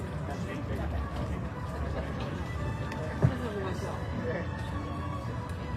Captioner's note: indistinct chatter